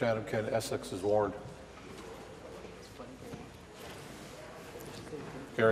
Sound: voice trailing

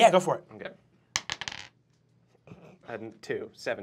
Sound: dice clacks

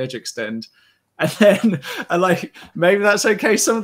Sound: laughs

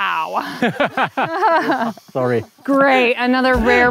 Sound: both laughing

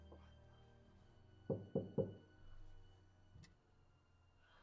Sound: distant door knock; music fades away

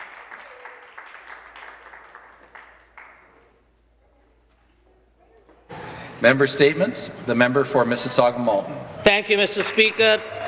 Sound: applause

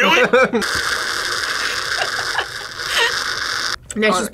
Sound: slurps; laughs

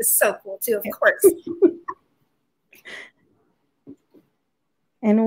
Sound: laughs

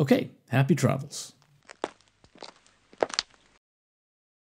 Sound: the sound of footsteps

